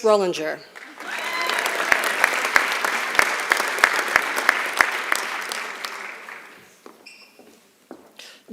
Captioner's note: applause